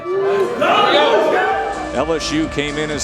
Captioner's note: cheers; voiceover